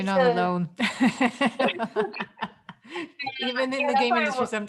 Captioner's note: all laughing